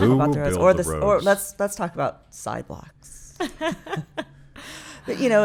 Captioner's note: laughing